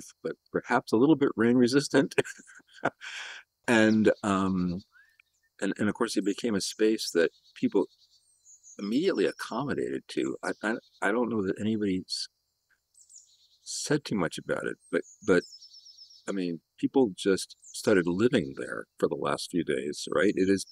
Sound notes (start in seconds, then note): 2.1 laughter